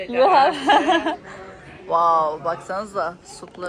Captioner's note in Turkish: kahkaha